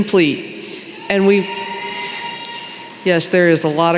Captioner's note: cheering